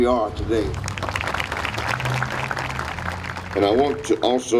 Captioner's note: audience applauding